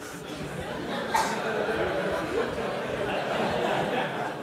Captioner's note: audience laughter